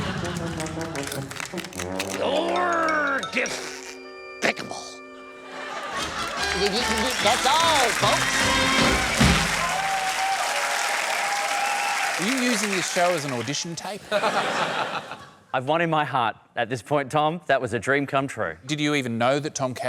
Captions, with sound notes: You're diff... picable. Th-th-th-th-th... That's all folks! (APPLAUSE) Are you using this show as an audition tape? (LAUGHTER) I've won in my heart, at this point, Tom. That was a dream come true. Did you even know that Tom Cashman